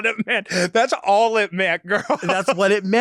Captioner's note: laughs